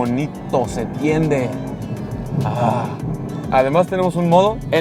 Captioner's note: engine revving